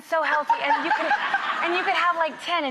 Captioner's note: laughs